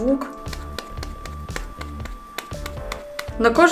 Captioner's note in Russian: хлоп, хлоп, хлоп, хлоп, хлоп, хлоп, хлоп